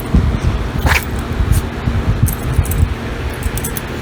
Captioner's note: Ella sneezes